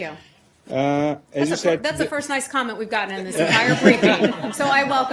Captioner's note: laughter